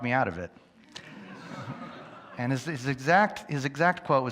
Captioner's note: audience laughs